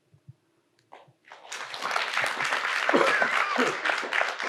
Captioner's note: audience applauds